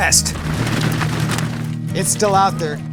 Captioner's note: hooves clattering